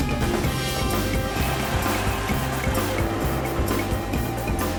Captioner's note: engine rumbling